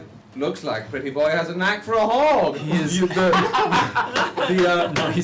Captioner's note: laughter